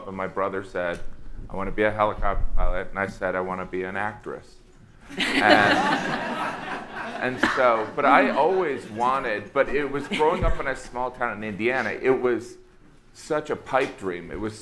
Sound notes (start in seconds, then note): 5.1 audience laughing